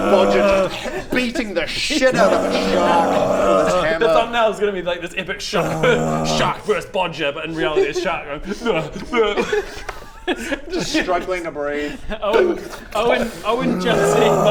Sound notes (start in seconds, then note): 2.0 urggggggggh; 5.4 urrrrggh